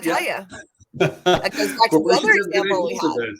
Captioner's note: laughter